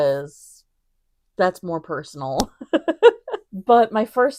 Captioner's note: giggles